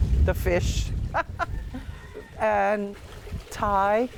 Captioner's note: laughing